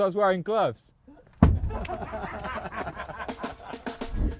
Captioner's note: laughing